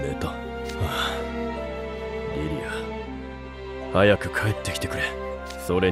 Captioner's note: sigh